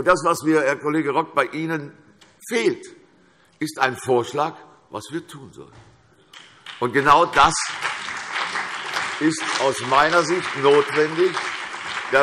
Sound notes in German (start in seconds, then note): 6.4 Beifall CDU und BÜNDNIS 90/DIE GRÜNEN